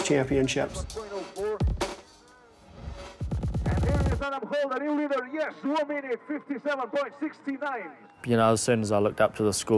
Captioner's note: announcer speaking